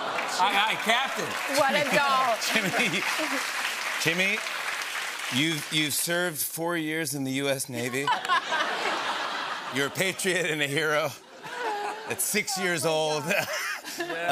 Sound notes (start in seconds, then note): 0.0 applause; 8.0 laughter